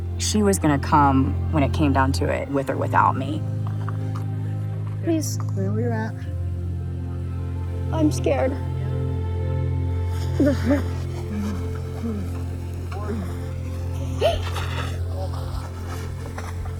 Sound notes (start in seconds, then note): 10.0 groaning; 14.0 gasps